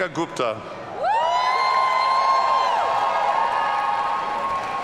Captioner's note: audience cheering